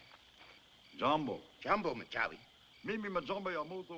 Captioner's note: speaking African Language